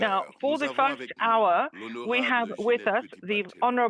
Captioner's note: speaking French